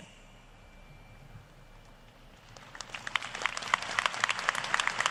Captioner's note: applause